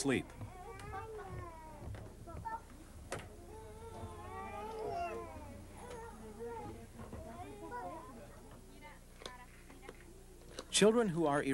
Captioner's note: people talking